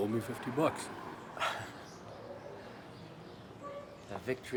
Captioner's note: Rene laughs